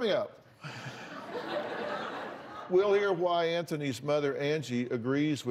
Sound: laughter

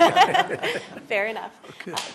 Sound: laughter

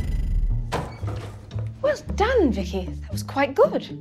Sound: door opens

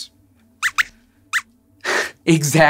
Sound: squeaks squeaks

